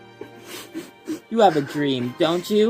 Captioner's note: Luke cries